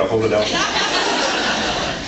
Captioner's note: laughs